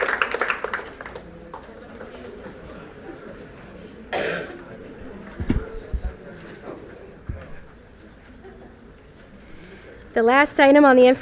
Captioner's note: audience chatter